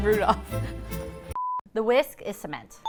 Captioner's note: beep